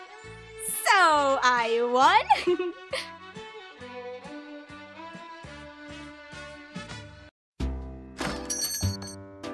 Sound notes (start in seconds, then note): 2.2 giggle